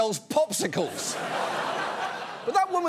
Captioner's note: studio audience laughs